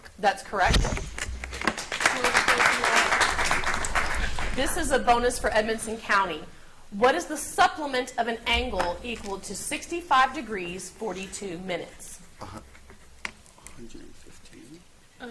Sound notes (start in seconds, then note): 1.2 audience applauds